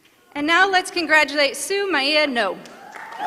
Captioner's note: applause